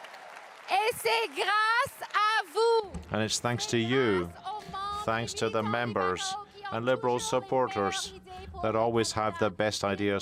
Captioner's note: cheering and applause